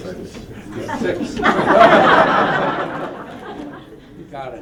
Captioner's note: laughter